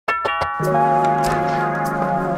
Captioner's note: doorbell rings; light electronic music